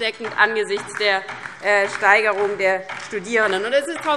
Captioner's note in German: Beifall DIE LINKE und vereinzelt SPD